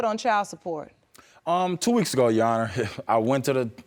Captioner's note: scoffs